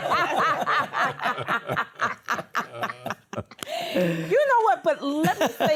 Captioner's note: laughter